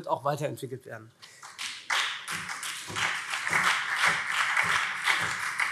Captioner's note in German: Beifall SPD und vereinzelt CDU